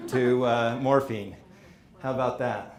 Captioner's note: audience laughing